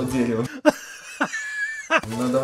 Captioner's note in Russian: Смех умирающего деда